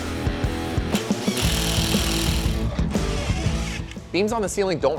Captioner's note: tool grinding